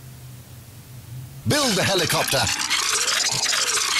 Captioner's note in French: bruits de construction